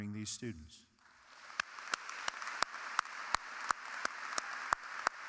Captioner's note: audience clapping